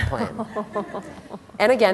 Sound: laughter

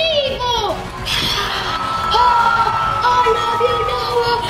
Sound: crowd cheering

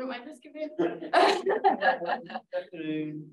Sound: laughing

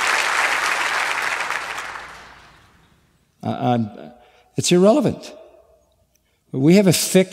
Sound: applause

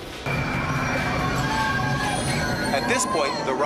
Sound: coaster shrieking

